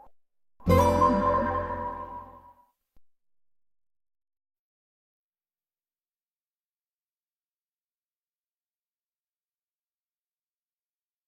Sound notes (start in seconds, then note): 0.6 digital piano chord plays; 6.4 silence